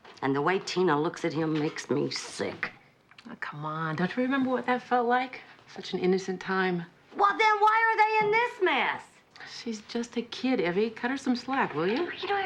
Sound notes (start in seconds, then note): 6.9 shouting